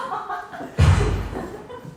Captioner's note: gun shot